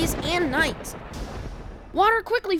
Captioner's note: lightning crash